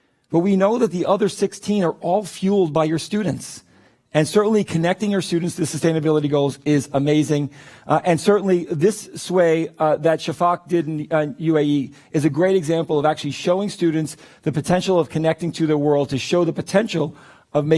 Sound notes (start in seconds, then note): none